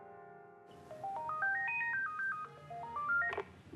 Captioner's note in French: Sonnerie de téléphone